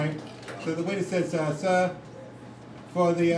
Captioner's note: none